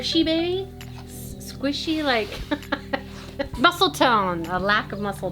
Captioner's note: laughing